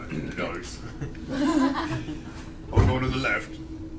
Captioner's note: all laugh